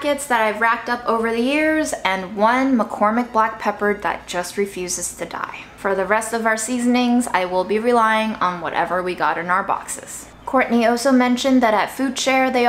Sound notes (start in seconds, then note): none